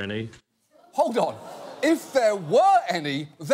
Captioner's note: audience gasping